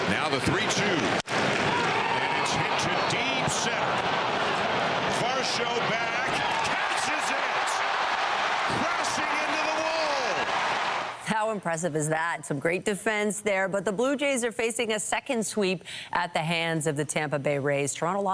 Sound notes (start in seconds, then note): 9.9 applause